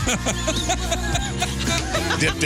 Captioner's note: laughing